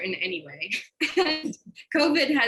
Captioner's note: laughs